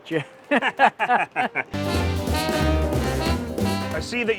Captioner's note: laughs